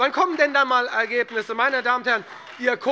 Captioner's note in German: Beifall SPD und vereinzelt Freie Demokraten